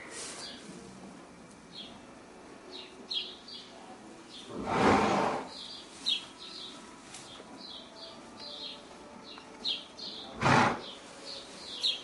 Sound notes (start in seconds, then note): 4.5 horse clears nose; 10.3 horse snorts